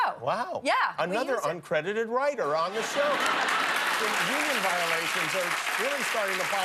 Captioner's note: laughter